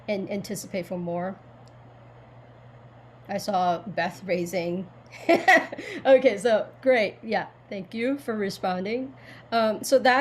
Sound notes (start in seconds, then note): 5.1 chuckles